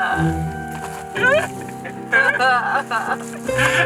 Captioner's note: laughing